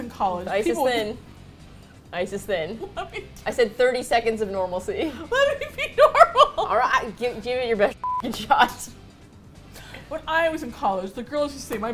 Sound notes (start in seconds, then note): 5.0 laughing